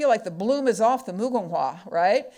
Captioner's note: speaking foreign language